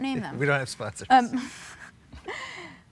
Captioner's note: chuckles